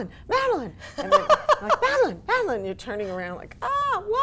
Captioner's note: laughs